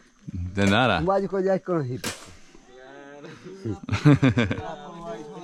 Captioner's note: speaking in foreign language